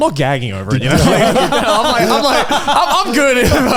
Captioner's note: all laughing